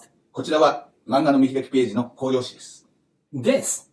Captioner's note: speaking Japanese